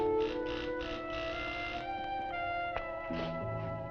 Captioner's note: door buzzing